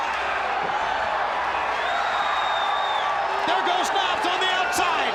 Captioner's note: crowd cheering